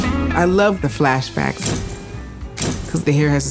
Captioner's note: camera shutter clicking